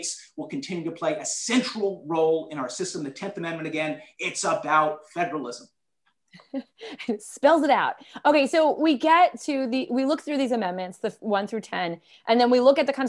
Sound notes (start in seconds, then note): 6.4 laughter